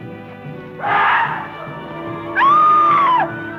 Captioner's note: screaming